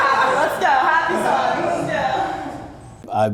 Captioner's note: laughing